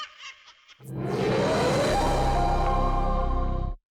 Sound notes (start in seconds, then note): 0.0 laughing